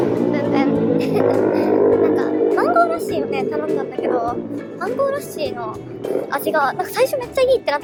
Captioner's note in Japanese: バイクの音